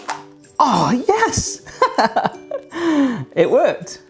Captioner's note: laughs